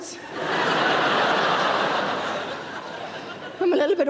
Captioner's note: laughing